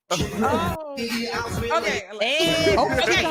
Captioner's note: laughing